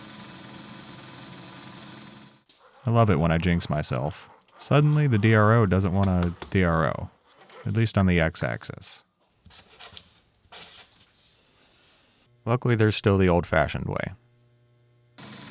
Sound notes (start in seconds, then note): 9.6 pen scratching; 15.2 machine whirring